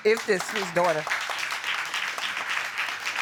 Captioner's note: audience applauding